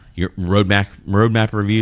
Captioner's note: uh